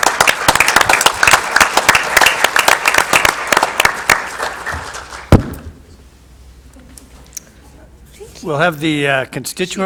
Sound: applause

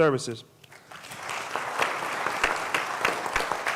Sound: applause

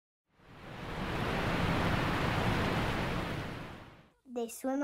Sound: water rushing

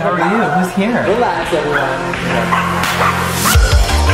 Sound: dogs barking; techno music

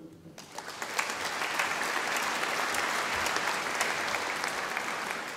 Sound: audience applauding

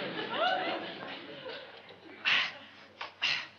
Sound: sniffing

